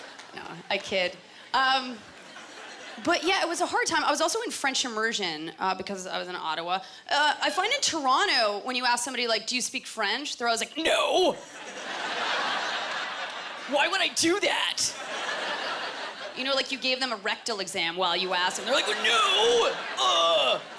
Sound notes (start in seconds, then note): 11.4 laughter; 20.5 laughter